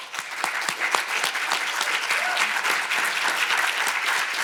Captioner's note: audience applauding